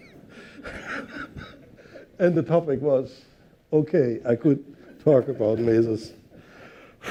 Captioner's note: laughs